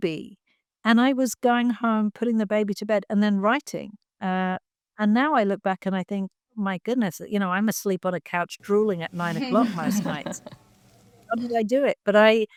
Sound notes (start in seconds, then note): 9.1 panelists laughing